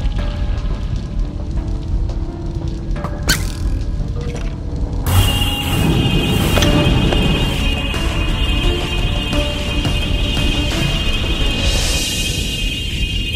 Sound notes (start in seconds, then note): 5.0 energy Sounds; 11.7 music Stops